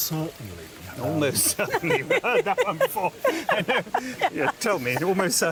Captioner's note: they laugh